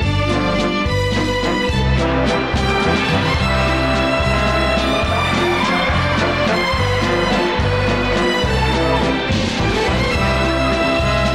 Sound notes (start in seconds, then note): 1.9 audience gasping; 9.8 slow waltz music